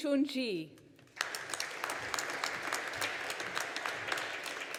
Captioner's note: audience applauding